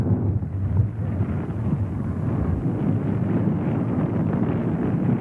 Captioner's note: flames roaring